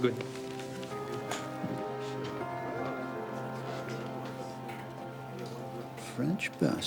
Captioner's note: warm pensive music continues; people chattering